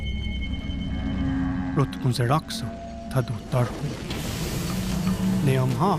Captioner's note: moaning and roaring